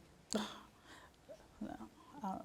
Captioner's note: gasps